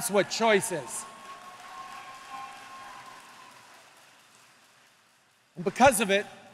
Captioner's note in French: Acclamations et applaudissements